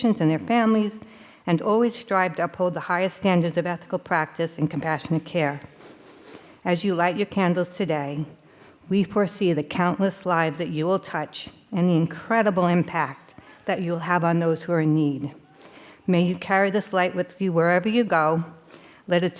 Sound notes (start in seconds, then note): none